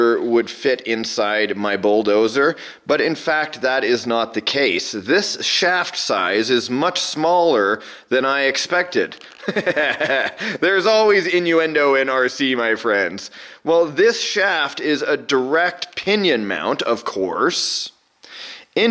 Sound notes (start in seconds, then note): 9.4 laughs